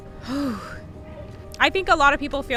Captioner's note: interviewee exhales